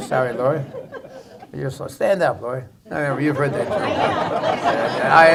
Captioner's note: laughter